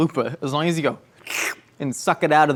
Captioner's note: slurps